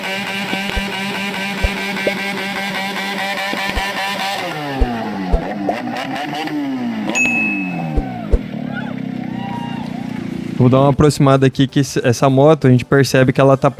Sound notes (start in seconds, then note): 0.0 motorcycle snoring; 4.0 motorcycle snoring